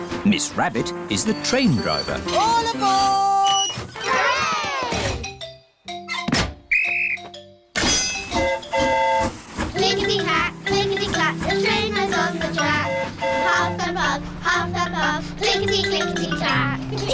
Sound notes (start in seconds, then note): 6.6 blows whistle; 6.7 train horn toots; 16.9 all giggle